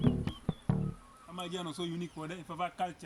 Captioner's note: people chatting